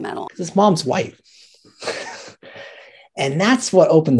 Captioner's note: laughs